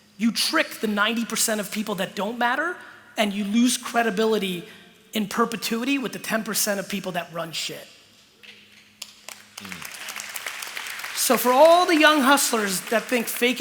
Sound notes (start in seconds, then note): 9.0 applause